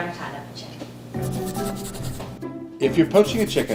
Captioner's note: pencil scribbling